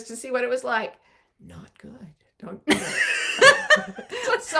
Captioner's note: whispering; laughing